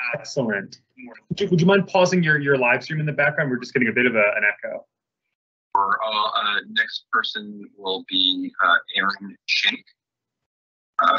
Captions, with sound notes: Excellent. Would you mind pausing your live stream in the background? We're just getting a bit of an echo. [Background talking]